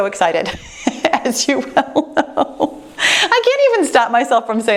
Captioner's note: laughs